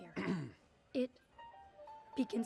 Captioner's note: clears throat